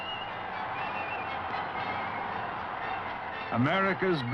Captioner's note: crowd cheering